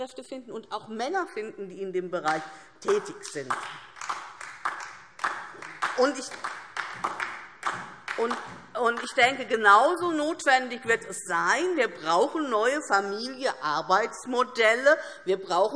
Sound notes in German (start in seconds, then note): 2.8 Beifall DIE LINKE